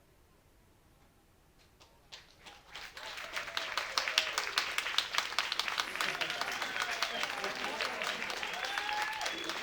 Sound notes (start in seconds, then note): 2.1 applause